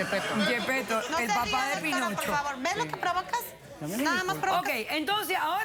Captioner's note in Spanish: Risas